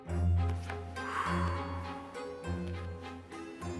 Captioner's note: quirky music; dramatic exhale